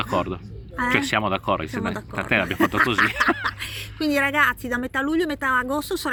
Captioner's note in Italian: risate